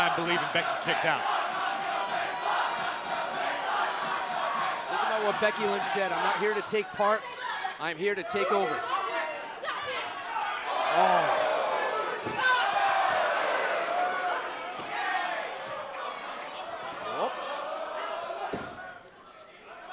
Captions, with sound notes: HAVING A HARD TIME BELIEVING BECKY KICKED OUT. >> [CROWD CHEERING] >> EVEN THOUGH WHAT BECKY LYNCH SAID, "I'M NOT HERE TO TAKE PART, I'M HERE TO TAKE OVER." >> OH.